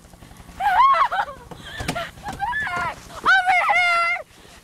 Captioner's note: Whimpering